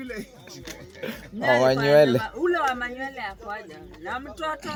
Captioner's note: laughing; lol's